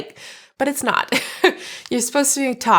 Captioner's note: laughing